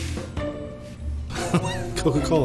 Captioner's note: laughs